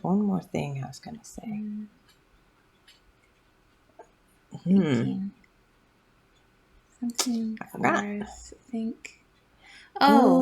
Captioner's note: tsk